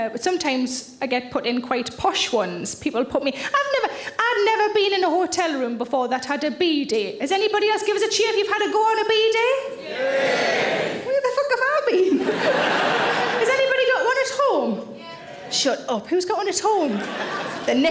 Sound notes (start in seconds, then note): 9.8 audience cheering